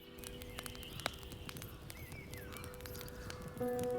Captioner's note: gentle orchestral music continues; birds chirping